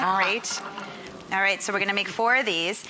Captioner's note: audience coos